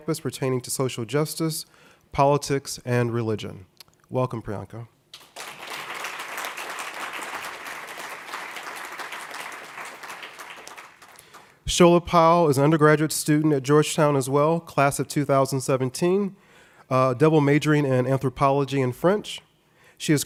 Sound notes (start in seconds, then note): 5.1 audience applauding